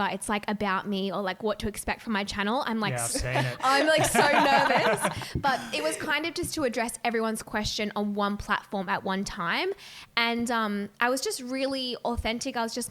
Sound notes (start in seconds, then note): 2.9 laughing